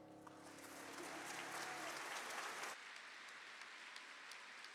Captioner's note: audience applauding